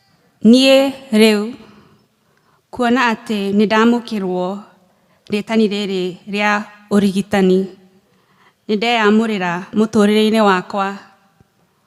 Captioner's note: speaking kikuyu